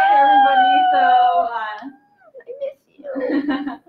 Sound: squeals

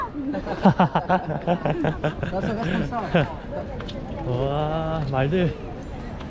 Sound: laughing

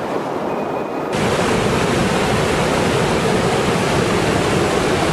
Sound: water rushing loudly

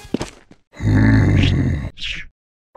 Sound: grumbles

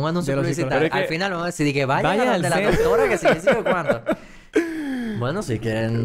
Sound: laughs

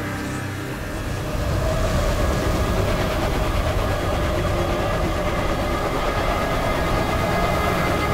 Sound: wind blowing

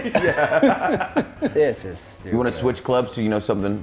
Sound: laugh

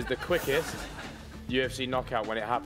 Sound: laughing

